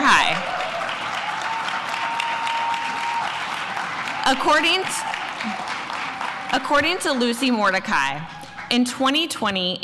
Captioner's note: applause